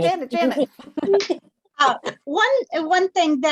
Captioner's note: laughter